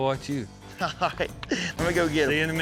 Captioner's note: laughs